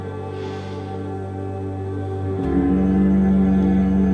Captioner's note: humms